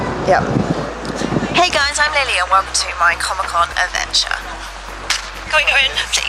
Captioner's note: russel sounds